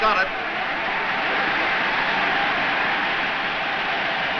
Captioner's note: crowd cheers